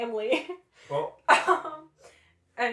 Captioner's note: laughter